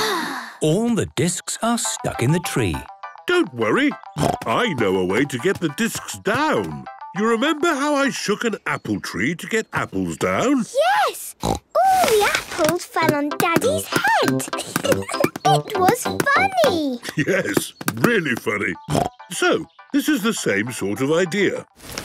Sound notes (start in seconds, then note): 14.6 giggling; 18.9 snorting